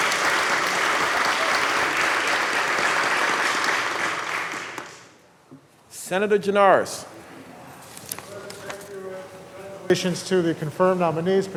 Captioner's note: applause